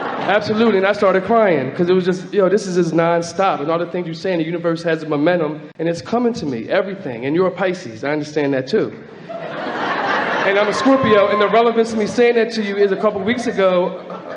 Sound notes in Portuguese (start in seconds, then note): 9.1 Platéia ri